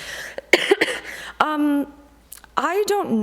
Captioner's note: coughing